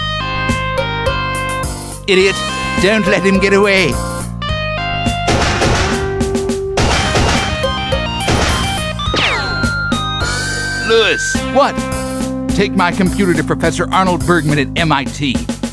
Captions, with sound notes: Idiot! Don't let him get away! [gunshots] [ricochet] Louis! What? Take my computer to professor Arnold Bergman at MIT